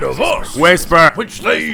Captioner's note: whisper